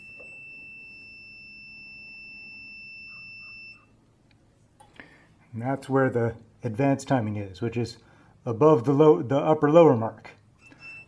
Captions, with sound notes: [beeping stops] And that's where the advanced timing is. Which is above the low… the upper-lower mark.